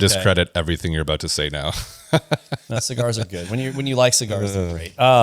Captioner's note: laughs